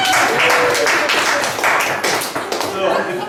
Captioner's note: laughs; guests applaud